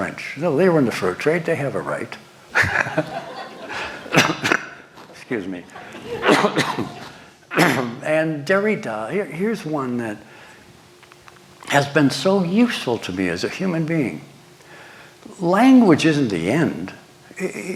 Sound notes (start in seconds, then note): 2.5 laughter; 2.5 coughs